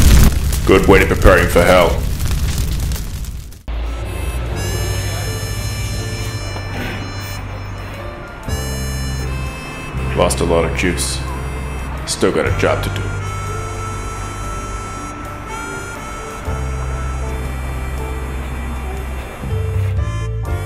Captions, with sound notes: (Voiceover) Good way to prepare him for hell. (Voiceover) Lost a lot of juice... (Voiceover) Still got a job to do...